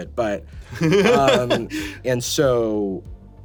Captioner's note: laughing